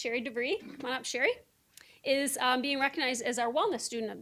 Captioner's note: none